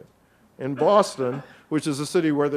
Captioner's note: audience member coughs